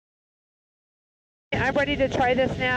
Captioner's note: engine humming